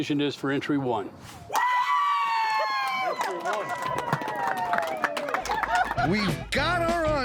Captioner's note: cheering, clapping